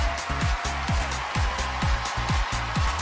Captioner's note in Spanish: gritos y aplausos